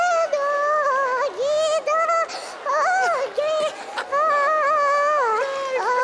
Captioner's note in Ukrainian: оплески